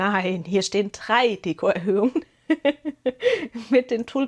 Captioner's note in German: Gelächter